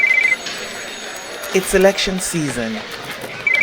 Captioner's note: phone ringing